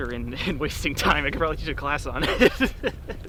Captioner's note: laugh